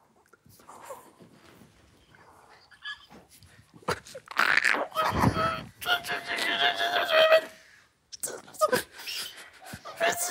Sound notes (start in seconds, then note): 3.8 gargling